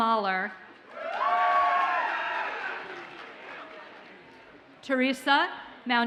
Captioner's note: audience cheers and applauds